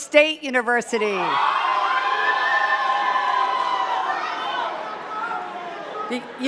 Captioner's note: cheers and claps